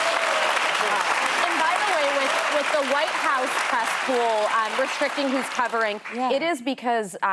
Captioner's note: applause